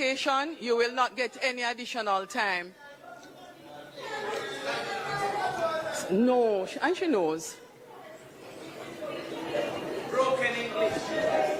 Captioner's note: mp chatter